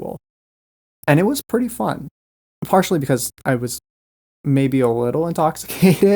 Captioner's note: laughs